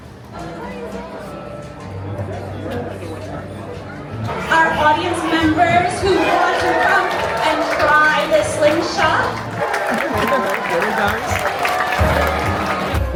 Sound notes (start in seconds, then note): 0.8 crowd murmuring; 10.2 audience applauding and cheering